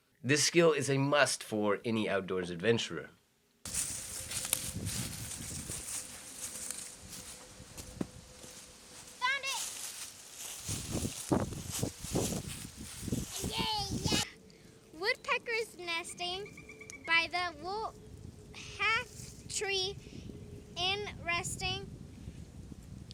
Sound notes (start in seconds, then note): 3.6 leaves crunching